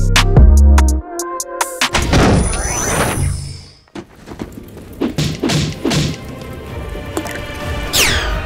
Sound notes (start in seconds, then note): 1.9 doors thud; 5.1 axe thumping